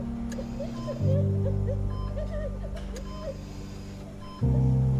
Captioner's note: mother crying